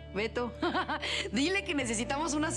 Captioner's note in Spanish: Risas